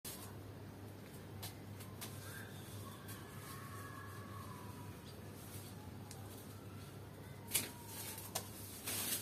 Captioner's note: children shouting in distance